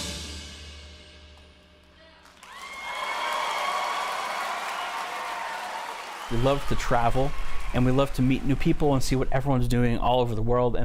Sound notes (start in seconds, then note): 1.9 cheering and applause